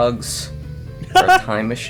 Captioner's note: cackles